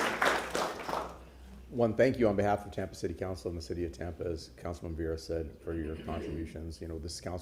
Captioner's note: applause